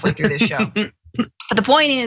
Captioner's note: laugh